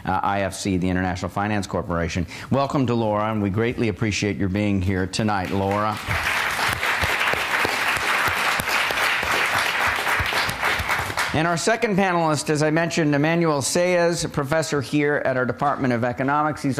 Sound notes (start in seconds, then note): 5.4 applause